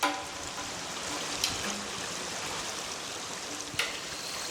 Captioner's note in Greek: ήχος νερού που τρέχει με τη συνοδεία κρουστών